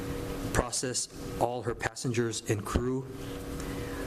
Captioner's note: none